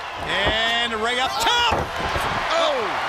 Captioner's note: crowd chatter; crowd cheering